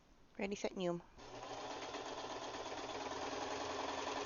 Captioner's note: sewing machine goes nyoom